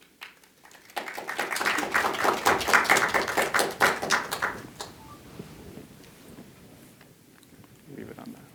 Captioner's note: applause